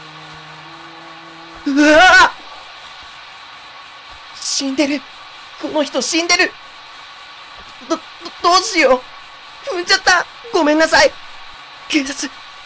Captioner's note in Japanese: 降り続く雨の音：ザアァー･･･